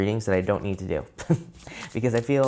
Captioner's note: chuckles